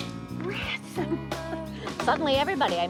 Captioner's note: laughs